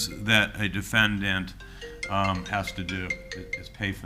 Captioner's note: phone rings